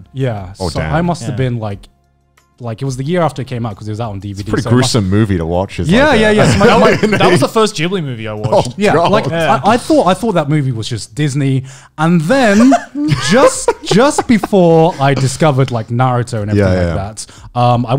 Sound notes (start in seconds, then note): 6.8 laughing softly; 12.4 laughing loudly